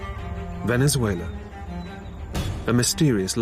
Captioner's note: voiceover